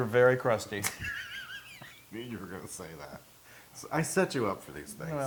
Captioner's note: laugh